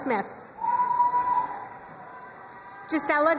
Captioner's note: crowd cheering and applauding